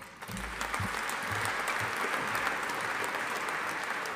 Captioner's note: audience applauding